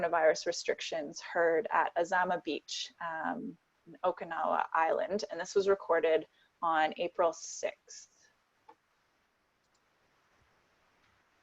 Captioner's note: recorded announcement